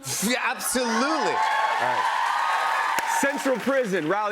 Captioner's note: cheers and applause